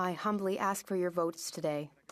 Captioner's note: speaking French